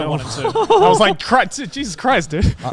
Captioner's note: chuckles